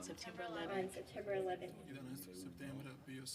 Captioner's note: speaking in foreign language